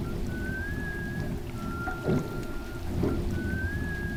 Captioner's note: eerie whistling